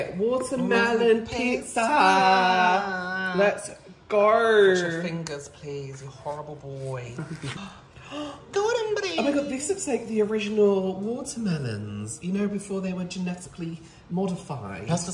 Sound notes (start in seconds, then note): 7.8 stunned Gasps